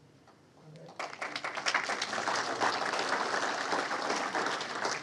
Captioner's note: audience applauds